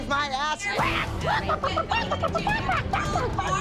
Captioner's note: Abby Lee clucking